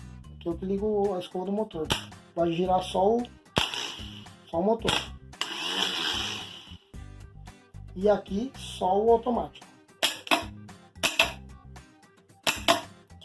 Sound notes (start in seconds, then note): 5.4 motor spins